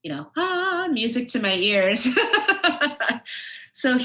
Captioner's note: laughs